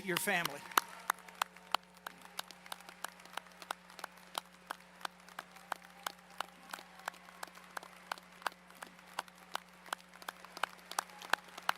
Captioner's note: applause